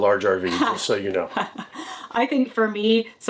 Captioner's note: chuckling